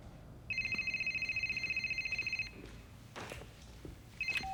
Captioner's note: rings; rings